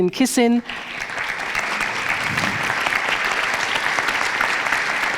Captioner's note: audience applauds